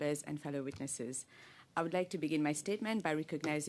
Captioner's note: speaking in French